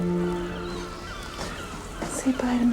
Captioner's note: gentle music; birds chirping